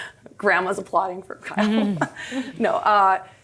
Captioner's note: laughs